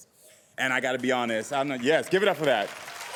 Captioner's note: audience applauding